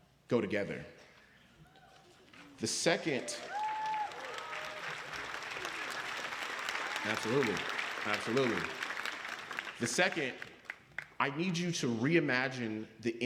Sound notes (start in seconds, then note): 5.1 applause